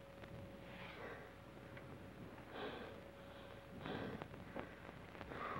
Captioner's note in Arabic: تراسك يتنفس بصعوبة